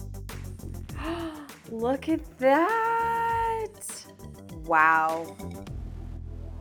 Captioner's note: gasping